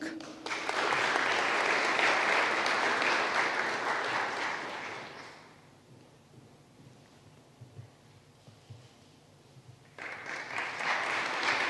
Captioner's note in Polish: oklaski